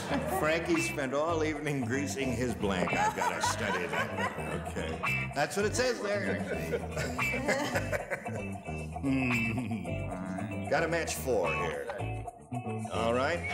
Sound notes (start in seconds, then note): 5.8 laughs; 5.9 audience laughs